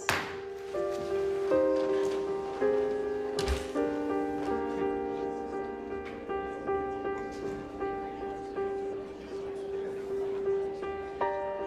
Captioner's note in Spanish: Murmullo de comentarios